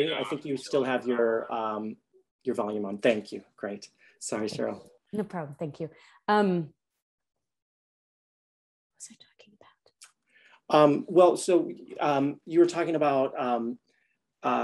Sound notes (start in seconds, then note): 8.8 faint whisper